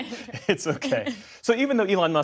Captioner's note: laughter